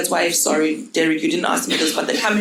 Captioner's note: audience laughing